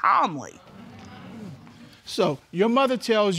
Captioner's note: audience agreeing